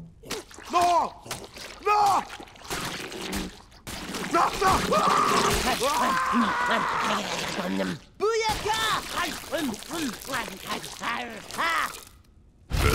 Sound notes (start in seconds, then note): 4.6 screaming; 12.7 belching